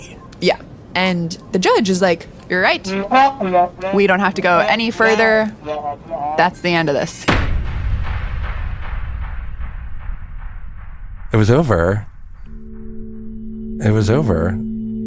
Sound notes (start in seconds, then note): 7.3 bang bang